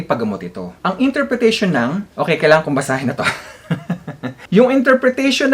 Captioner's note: chuckle